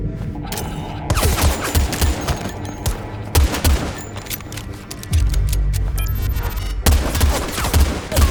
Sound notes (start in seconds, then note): 3.4 metallic clinking